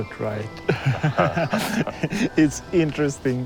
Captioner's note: laughs